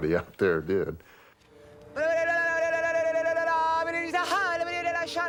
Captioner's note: speaking in tongues